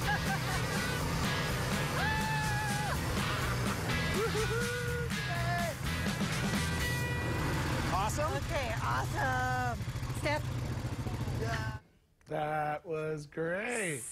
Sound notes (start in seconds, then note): 4.1 laughter